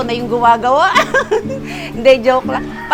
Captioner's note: laughs